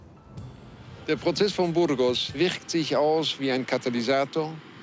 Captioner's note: male reporter speaking German